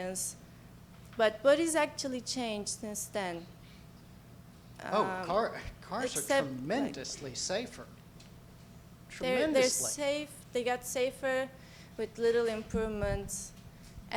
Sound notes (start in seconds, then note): 9.7 voiceover